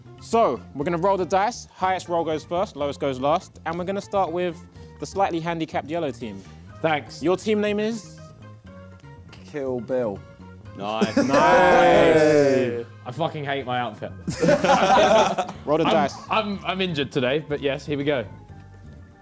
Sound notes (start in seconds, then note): 14.2 both laughing